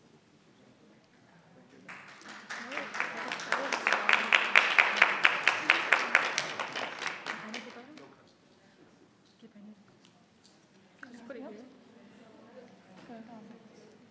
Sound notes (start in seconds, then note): 1.9 audience applauds; 8.7 people chatter